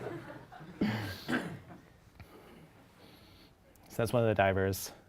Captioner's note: audience laughs